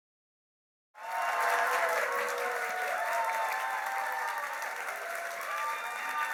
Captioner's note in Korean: 박수와 환호